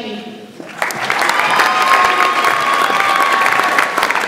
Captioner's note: audience applauds